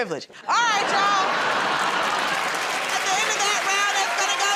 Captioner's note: cheers and applause